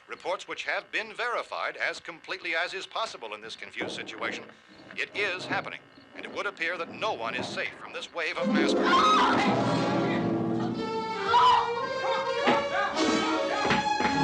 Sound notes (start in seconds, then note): 8.8 screams; 10.6 barbra continues screaming